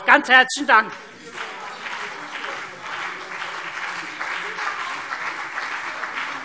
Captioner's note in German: Beifall CDU und BÜNDNIS 90/DIE GRÜNEN